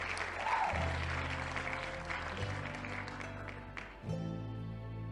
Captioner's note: hands clapping; people cheering; hands clapping